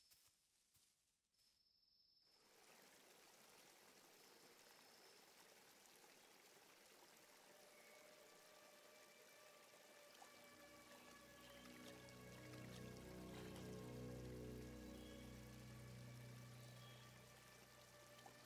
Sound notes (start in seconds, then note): 3.1 water rushing; 8.6 ominous music